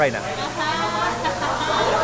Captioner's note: laughs